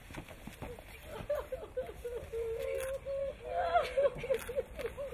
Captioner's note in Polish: płacz